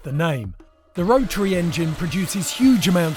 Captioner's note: engine roars